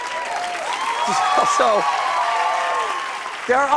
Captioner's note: cheers and applause